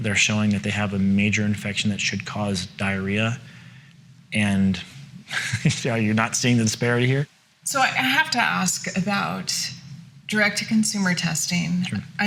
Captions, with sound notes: and they're showing that they have a major infection that should cause diarrhea and (laughs) are you not seeing the disparity here? - So I have to ask about direct consumer testing.